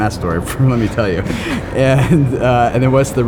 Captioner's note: laughs